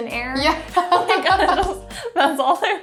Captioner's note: laughs